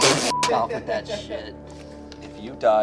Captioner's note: beep